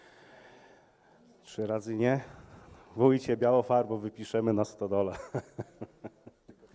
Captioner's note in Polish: śmiech